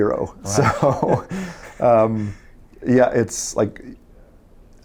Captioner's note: laughs